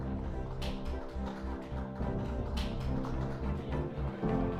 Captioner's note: applause